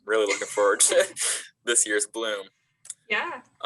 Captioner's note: chuckles